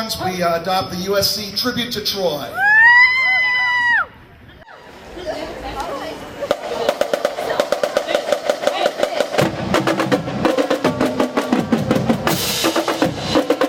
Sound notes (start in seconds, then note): 2.6 cheering; 5.8 drums beating